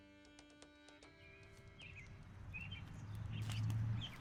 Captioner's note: birds chirping